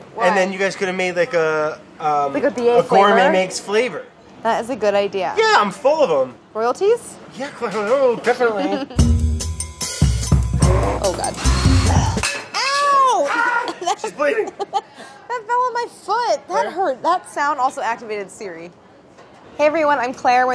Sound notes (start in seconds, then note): 15.3 laughs